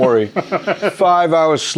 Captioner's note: laughs